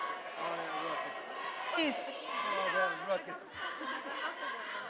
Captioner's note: attendees chanting